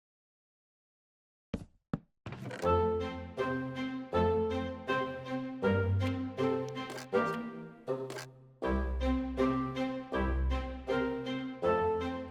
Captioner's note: sounds of Inventory Sorting